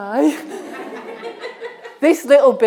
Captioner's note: audience laughing